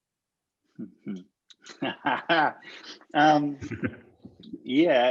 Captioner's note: laughs